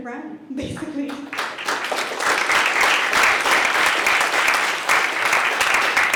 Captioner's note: applause